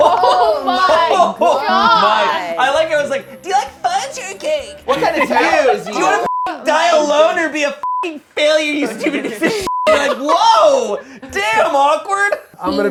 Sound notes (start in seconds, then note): 0.0 overlapping chatter; 6.7 beep